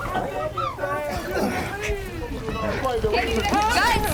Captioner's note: scuffling